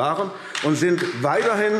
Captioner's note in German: Beifall AfD